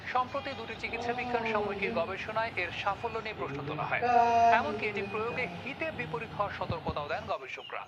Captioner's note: Asad is mocking over the phone